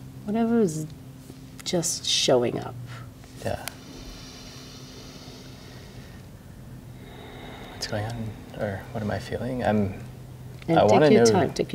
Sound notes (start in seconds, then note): 3.7 therapist inhales deeply; 6.9 therapist breathes